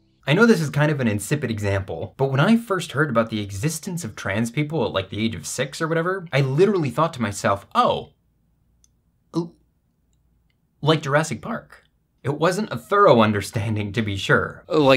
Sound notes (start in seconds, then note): none